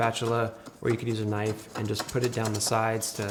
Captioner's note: knife scrapes